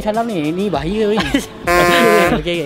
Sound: chuckles

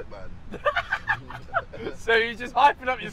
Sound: laughs

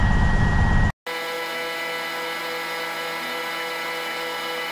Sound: audio buzzing

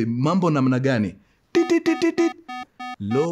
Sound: beeping sound

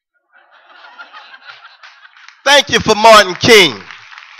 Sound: laughter

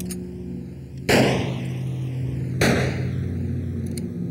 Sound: gun firing

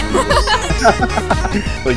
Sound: laughs

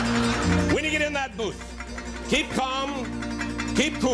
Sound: laughter

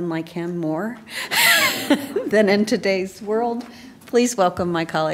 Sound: laugh

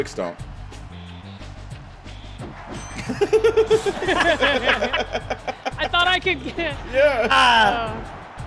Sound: laugh

